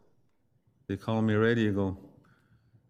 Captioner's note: speaks foreign language